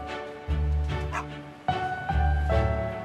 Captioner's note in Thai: โฮ่ง